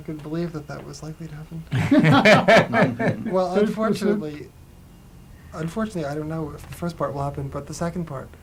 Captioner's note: laughter